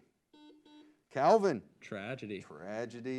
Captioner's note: buzzer beeps